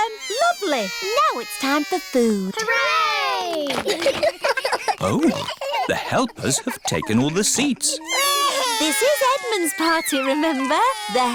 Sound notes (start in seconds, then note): 3.6 giggles; 8.4 babies crying